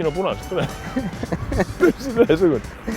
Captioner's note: both laugh